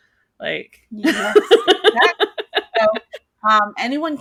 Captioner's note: laughing